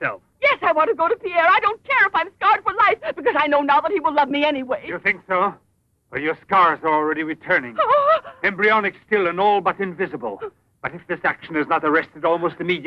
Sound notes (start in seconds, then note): 7.6 Jeanette gasps